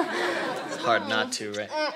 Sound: kissing noises

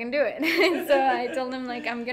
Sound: laughing

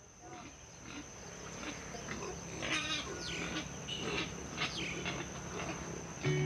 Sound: pigs snorting; chickens clucking

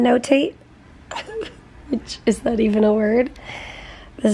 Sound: chuckling

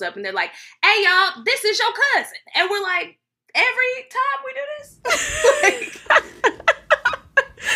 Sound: both laughing

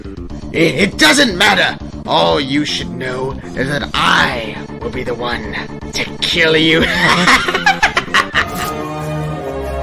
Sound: evil Laugh

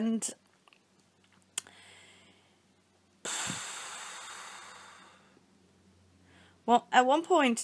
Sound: pfffffffff

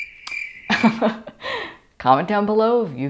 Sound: crickets chirping; laughter

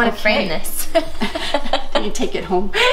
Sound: laughing

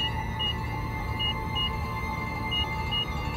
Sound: beeping

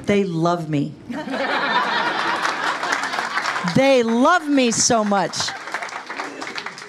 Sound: laugh; applause

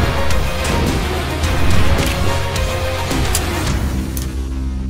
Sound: gunfire popping

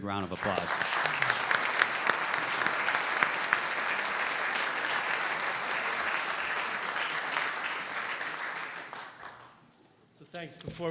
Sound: applause

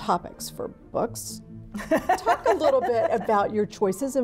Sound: laughing

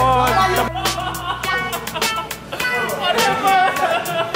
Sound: laughing

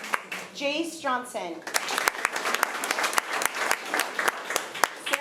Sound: applause

